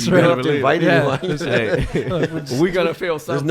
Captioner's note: laughs